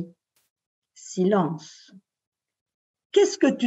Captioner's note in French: Silence